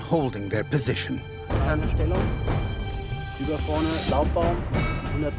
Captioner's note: speaking in a foreign language